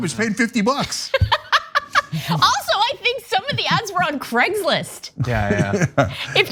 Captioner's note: laugh